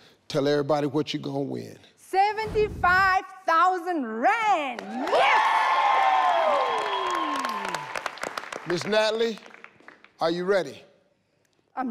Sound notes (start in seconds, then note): 4.8 audience cheers; 7.5 clapping